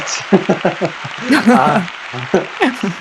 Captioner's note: clapping